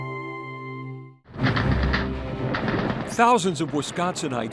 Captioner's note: guns firing